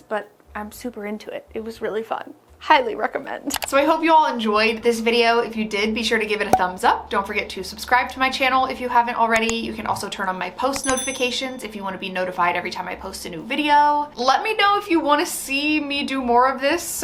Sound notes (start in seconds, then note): 6.5 cork popping; 10.7 bell ringing